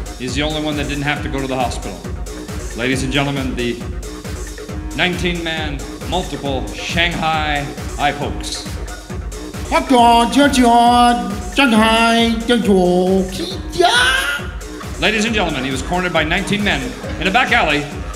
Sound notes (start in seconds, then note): 9.7 foreign Language